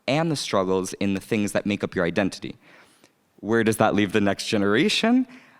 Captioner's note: none